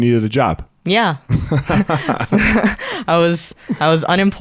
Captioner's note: both laugh